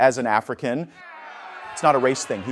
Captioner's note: crowd jeers